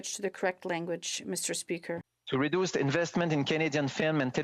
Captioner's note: speaking French